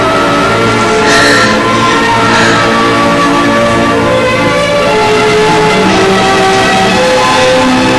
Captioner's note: Marita and Benj weeping